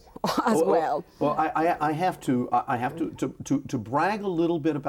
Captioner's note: chuckles